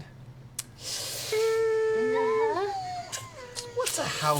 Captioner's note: hesitant noises